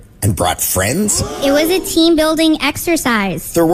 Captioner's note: toad Species Gasps